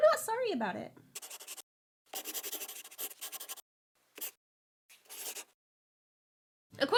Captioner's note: the sound of a pen scratching